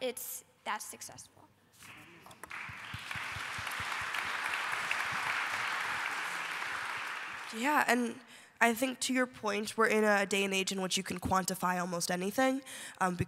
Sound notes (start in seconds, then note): 1.8 applause